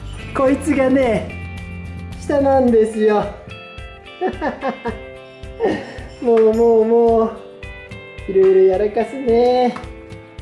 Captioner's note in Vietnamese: cười